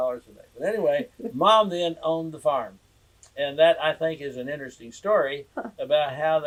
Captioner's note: laughter